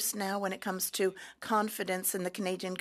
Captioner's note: speaking French